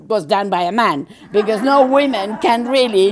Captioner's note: general laughter